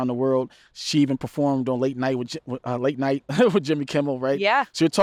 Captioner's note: laughs